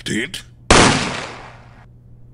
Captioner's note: bang!